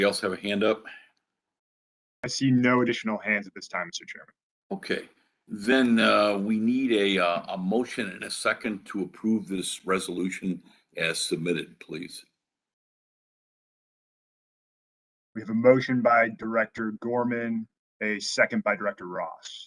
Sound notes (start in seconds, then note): 11.9 A pause